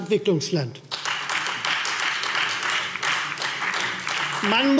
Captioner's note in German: Beifall